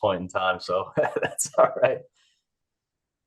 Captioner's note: chuckles